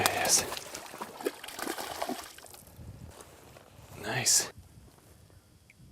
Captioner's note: splash